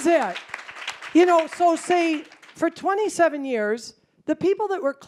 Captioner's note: applause